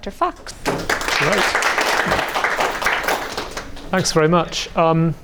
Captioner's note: crowd clapping